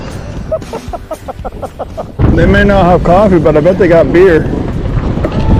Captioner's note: laughing